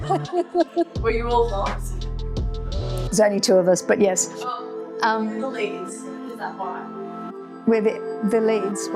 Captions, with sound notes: (laughing) Were you all wogs? There's only two of us, but yes. Oh, you were the leads. Is that why? We're the leads.